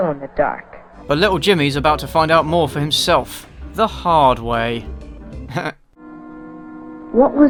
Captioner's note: snickers